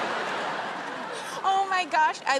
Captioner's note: laughter